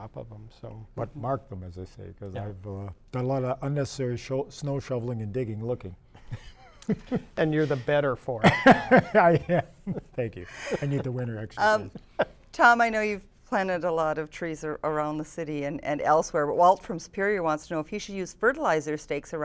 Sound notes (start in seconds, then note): 10.1 laughter